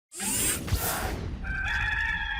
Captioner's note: logo swooshing; cock crowing